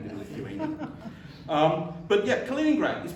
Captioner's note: chuckling